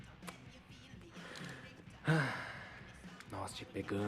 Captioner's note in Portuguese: suspiro